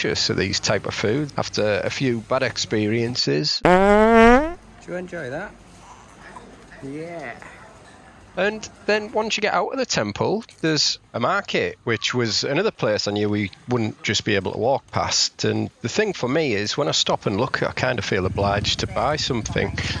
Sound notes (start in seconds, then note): 3.6 sound of flatulence